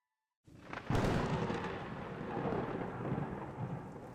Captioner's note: thunder rumbling